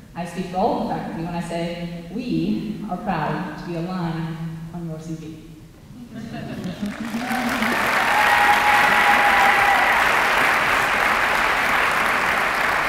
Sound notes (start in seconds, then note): 6.8 applause